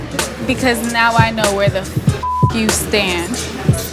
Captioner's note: beep